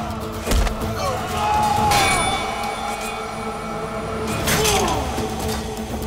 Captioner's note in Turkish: Savaş sesleri